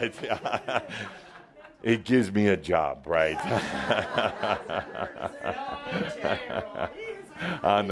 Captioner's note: laughter